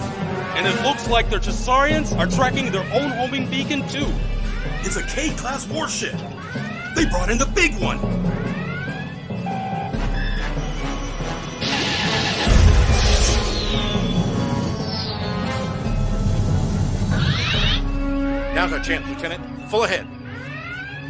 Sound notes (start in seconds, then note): none